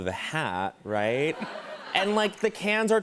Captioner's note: laughter